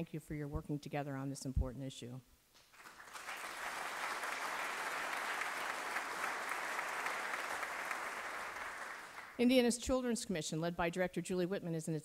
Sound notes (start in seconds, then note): 2.7 applause